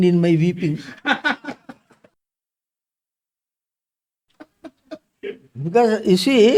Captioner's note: laughs